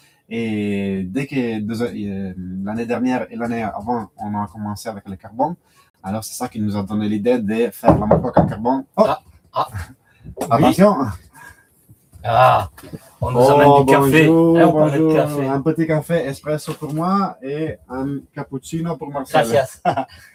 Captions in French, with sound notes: et dès que de l'année dernière et l'année avant on a commencé avec le carbon alors c'est ça qui nous a donné l'idée de faire la moque en carbon. Oh ah attention. Ah, on nous amène du café. Un petit café espresso pour moi et un cappuccino pour Marcel. [rires]